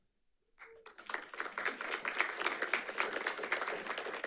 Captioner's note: audience applauding